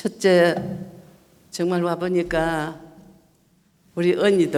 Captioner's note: speaking foreign language